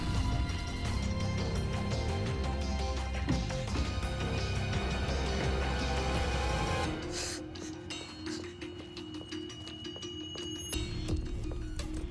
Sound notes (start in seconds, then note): 6.8 breathing heavily